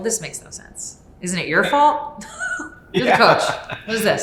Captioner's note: laugh